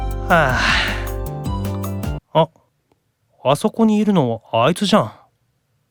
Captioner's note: sigh